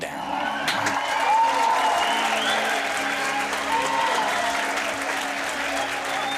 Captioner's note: cheers and applause